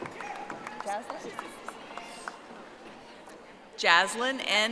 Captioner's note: audience applauding